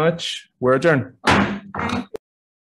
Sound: gavel slams

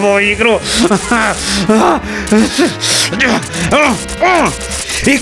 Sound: inarticulate sounds of anger

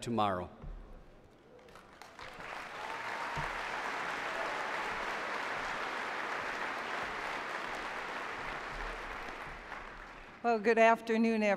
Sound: applause

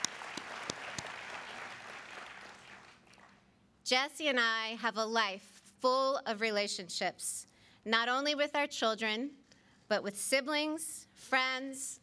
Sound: applause

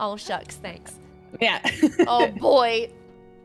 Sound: laugh

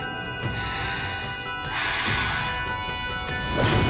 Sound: breathing

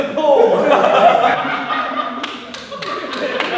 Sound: group laughs

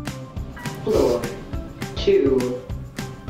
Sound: elevator voice

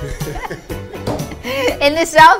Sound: man and woman laughing

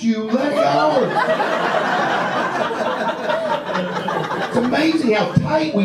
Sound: audience laughs

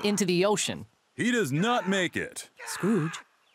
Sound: shouting angrily

